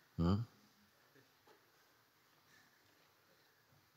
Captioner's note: silence